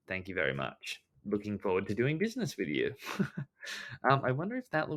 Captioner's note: laughs